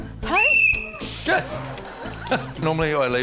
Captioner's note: blows whistle; laughs